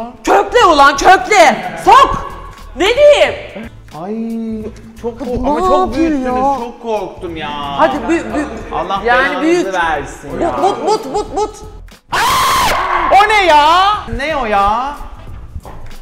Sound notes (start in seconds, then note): 12.1 screaming